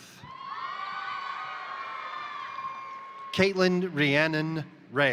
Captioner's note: crowd cheering; crowd applauding